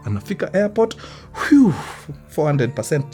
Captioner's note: sighs